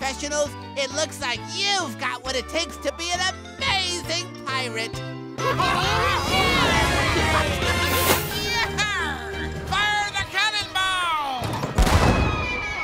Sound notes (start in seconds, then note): 5.2 cheering